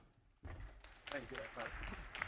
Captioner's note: audience applauding